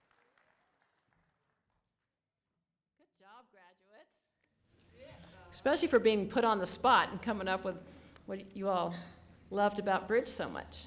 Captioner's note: applause